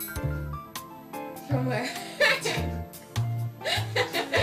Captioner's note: laughing